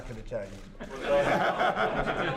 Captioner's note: laughter